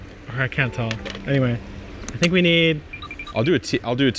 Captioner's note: rattling